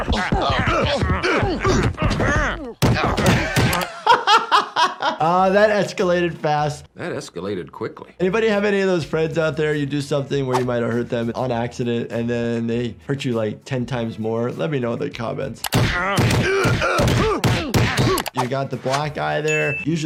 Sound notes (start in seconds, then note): 0.0 everyone giggling; 0.6 everyone grunting; 4.0 laughing; 15.9 everyone grunting